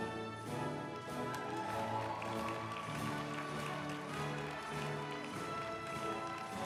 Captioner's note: uplifting music; group applauding